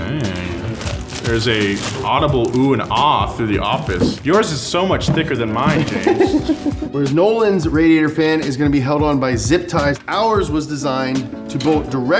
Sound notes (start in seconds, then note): 6.0 laughs